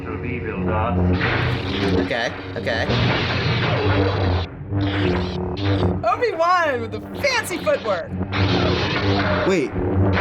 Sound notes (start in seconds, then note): 3.3 sabers whizzing